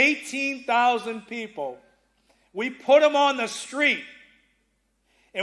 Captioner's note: none